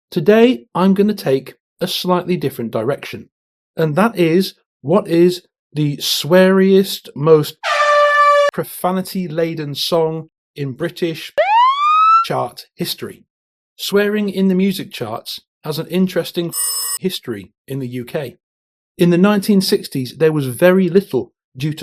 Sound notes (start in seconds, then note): 7.6 air-horn; 11.4 siren; 16.5 phone ring